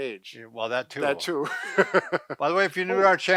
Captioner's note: laughing